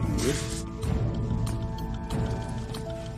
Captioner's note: mutters